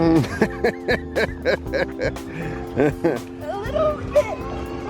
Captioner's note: laughs